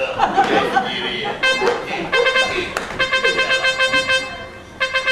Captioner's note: Σαλπίσματα μάχης